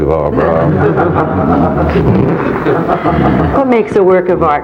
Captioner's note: audience laughing